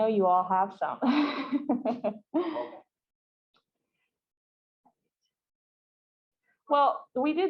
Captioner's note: laughs